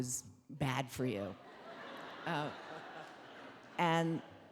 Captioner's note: audience laughing